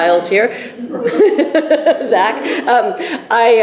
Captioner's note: laughs